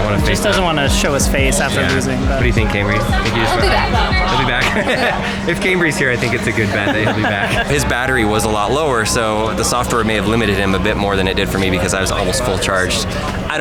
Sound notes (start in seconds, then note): 0.0 laughter; 5.2 laughs